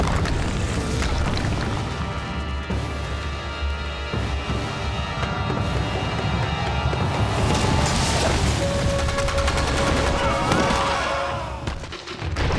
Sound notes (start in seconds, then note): 9.9 screaming